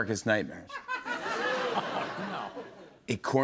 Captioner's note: laughter